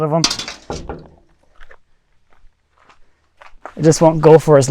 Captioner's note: metal clanging